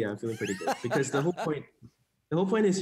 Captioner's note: laughing